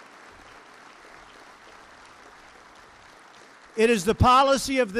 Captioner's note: applause